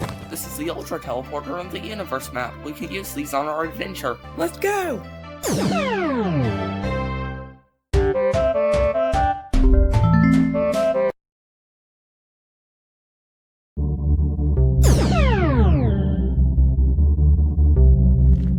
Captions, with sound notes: This is the Ultra Teleporter and Universe Map. We can use these on our adventure! - Let's go! [TELEPORTATION SOUND] [INTRO MUSIC] [TELEPORTATION SOUND]